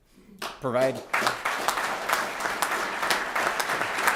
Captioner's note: applause